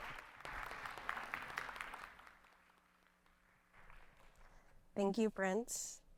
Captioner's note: audience clapping